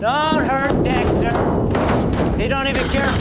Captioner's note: walls rattling and clanging